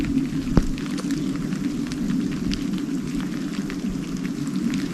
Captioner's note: downpour pattering